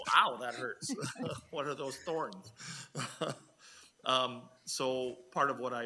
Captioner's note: people chuckle